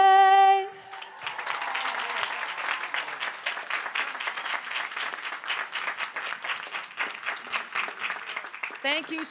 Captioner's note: applause